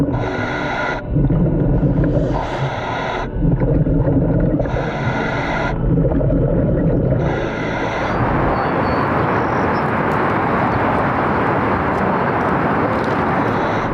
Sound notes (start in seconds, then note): 0.3 underwater breathing; 8.0 wind blowing